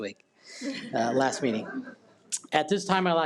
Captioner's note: attendees laugh